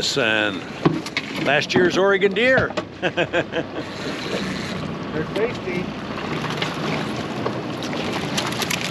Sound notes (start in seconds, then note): 0.0 reel cranking; 3.0 chuckling; 5.5 reel cranking; 8.6 fish splashing